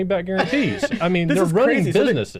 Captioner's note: person laughs